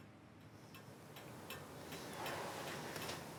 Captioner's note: regular ticking thuds